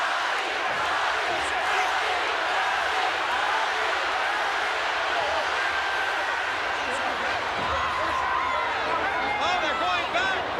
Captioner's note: applause